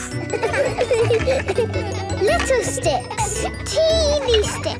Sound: laughter

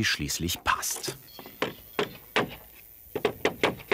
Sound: soft knocking

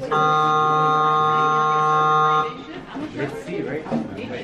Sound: school bell ringing

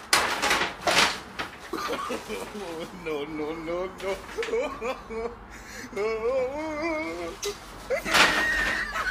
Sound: laughter

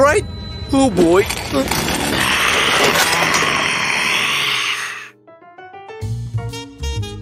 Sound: zombie sounds

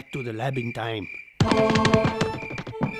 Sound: running footsteps

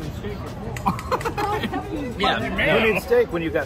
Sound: laughs

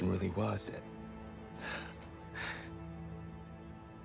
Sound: laughs

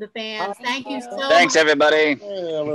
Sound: group chattering

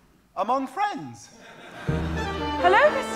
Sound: audience laughing

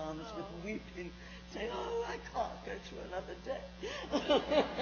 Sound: laughs

